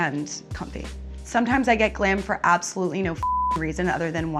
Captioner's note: beep